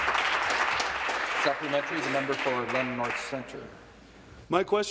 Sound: applause

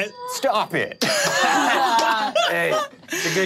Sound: all laughing

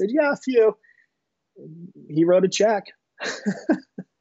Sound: laughing

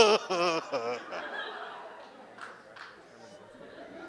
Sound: audience laughs

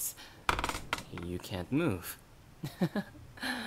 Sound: bed springs creak; laugh

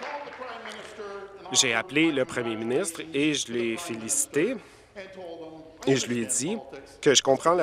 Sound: applause

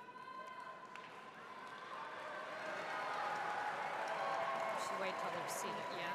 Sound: applauding; audience shouting out

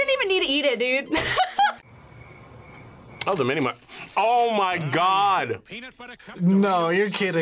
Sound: laughs

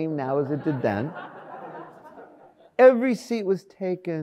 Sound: audience laughs

